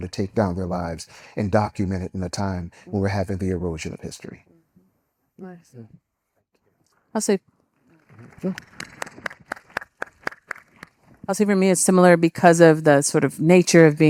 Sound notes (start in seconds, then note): 8.0 audience applauding